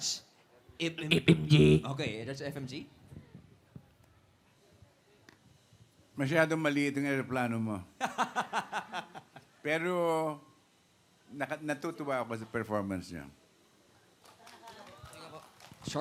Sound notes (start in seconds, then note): 1.3 beatboxing; 8.1 robi laughing; 14.2 applauding